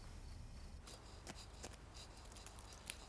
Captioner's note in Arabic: يخدش ورق الصنفرة